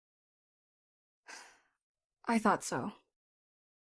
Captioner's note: sigh